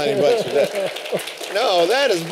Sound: applause

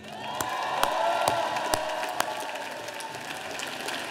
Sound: audience applauding

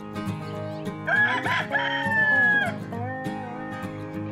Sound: rooster crowing

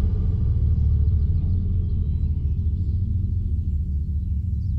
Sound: birds chirping faintly

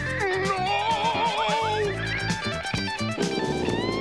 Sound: shouting

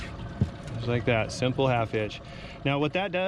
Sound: none

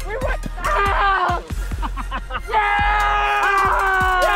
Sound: men laugh

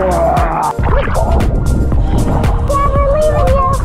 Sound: air rushing

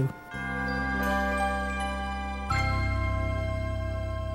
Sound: chimes

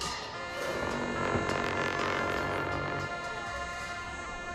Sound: cymbal crashes; horns blowing

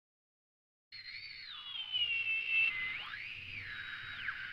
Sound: whirring sound

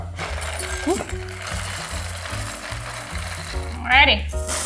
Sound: cereal rustling

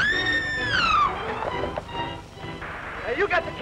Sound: scream

